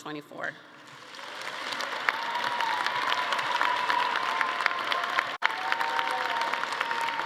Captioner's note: everyone applauding; attendees cheering